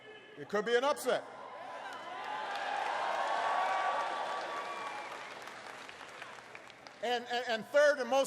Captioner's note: applause